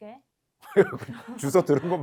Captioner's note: laughter